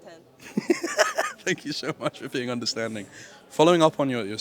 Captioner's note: laughs